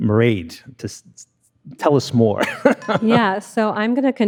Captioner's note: laughs